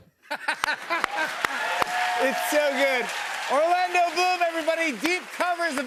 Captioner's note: laughs